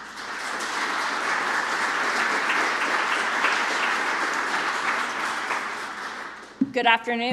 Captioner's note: applause